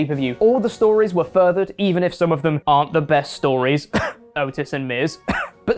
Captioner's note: cough